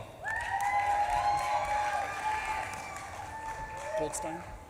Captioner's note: audience claps and cheers